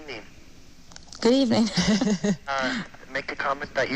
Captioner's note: laughs